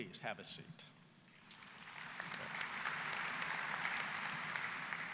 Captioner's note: applause